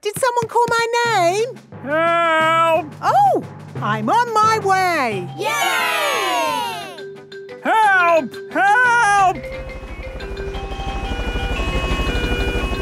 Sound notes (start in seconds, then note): 5.4 crowd cheering; 10.8 emergency siren sounding